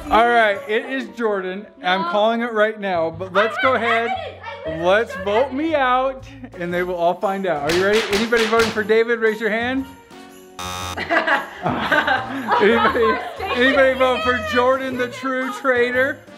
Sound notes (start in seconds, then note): 10.6 buzzer sounds